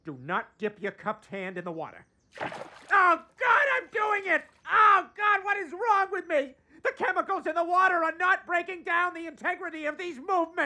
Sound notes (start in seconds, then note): 2.3 water splashes